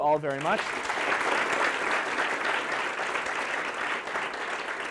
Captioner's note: applause